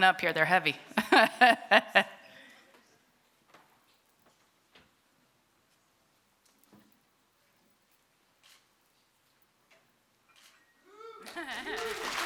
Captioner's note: laughter